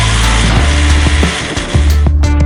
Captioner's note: sound: Metal door slamming shut